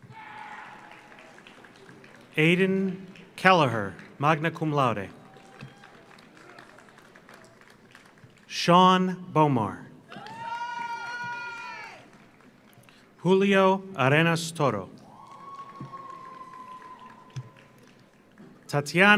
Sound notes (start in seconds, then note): 0.0 audience cheers; 0.0 audience applauds; 5.1 audience cheers; 10.1 audience cheers; 10.1 audience applauds; 15.0 audience cheers; 15.0 audience applauds